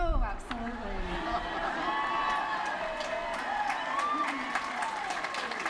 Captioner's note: laughter